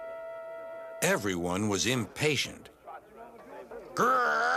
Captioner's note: people grumbling